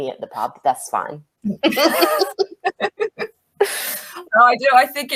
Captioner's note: laugh